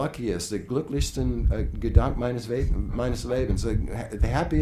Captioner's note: speaking foreign language